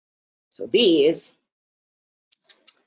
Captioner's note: tongue clicking